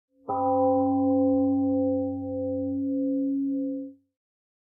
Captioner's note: temple gong rings and fades